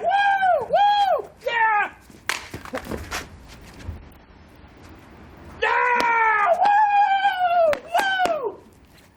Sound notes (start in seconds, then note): 0.0 cheering; 2.2 cellphone thuds; 5.9 continues cheering